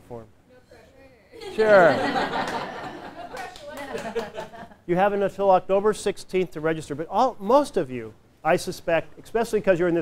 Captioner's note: laughter